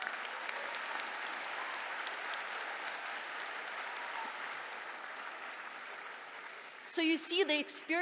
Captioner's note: laughter, applause